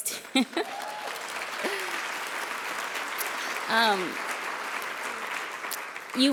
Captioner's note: applause